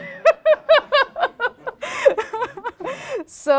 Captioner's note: laughter